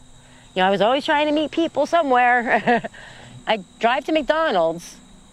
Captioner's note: laughs